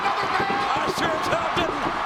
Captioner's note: audience cheers